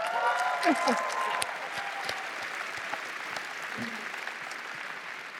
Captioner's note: applause